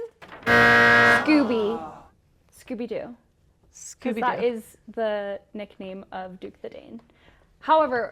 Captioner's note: buzzer